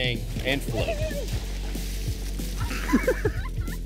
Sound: splashing; laughter

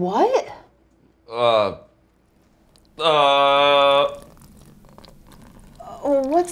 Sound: liquid trickling

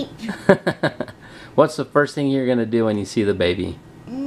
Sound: laughs

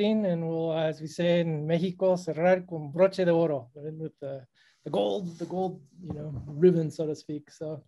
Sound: spanish

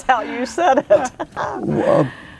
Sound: laughing

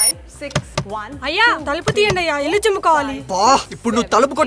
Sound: alarm rings; door knocks

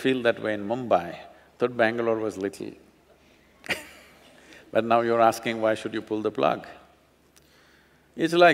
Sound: laughs

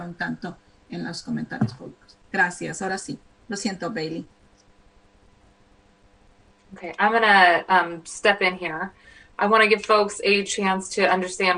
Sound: speaking spanish

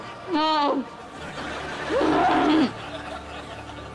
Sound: grunting

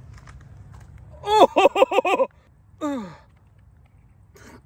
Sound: laughs

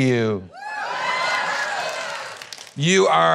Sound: applause

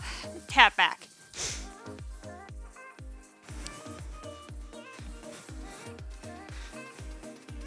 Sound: soft upbeat music; breathes

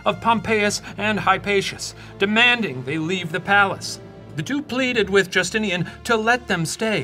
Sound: none

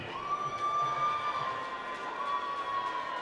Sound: cheering

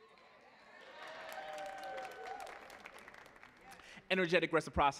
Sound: audience cheering and applauding

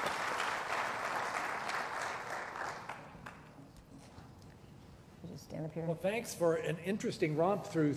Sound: applause

